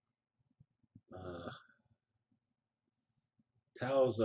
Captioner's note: pause